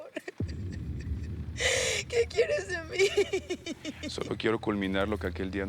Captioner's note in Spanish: Sollozos